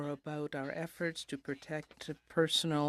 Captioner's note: speaking in french